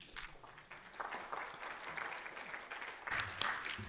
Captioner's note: applause